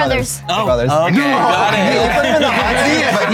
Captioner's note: group laughing; group chattering